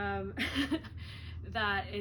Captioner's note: laughs